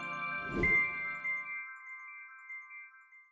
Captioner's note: gentle music; logo whooshing